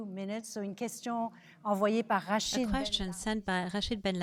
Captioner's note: speaking French